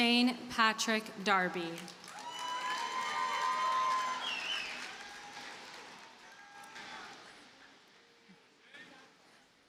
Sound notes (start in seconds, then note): 1.8 audience cheers and applauds